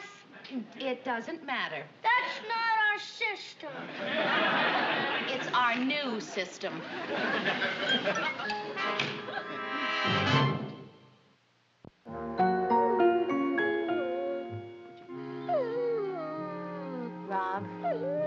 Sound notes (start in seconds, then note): 13.6 larry whimpering